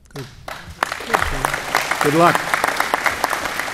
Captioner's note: applause